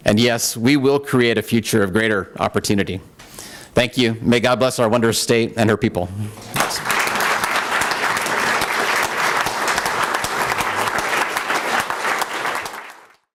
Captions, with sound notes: And yes, we will create a future of greater opportunity. Thank you. May God bless our wondrous state and her people. [APPLAUSE]